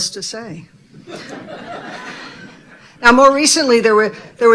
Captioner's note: audience laughing